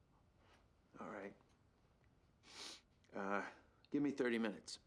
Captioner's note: sniffles